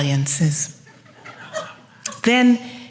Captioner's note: laughter